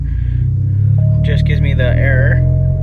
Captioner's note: beeping